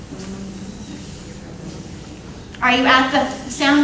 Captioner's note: audience imitating sounds